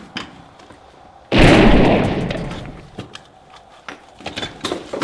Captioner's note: gunshot bangs